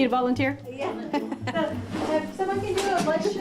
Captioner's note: chuckle